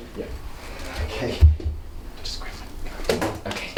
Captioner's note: whispers